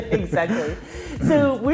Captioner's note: both laughing